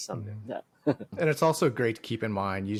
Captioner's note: chuckles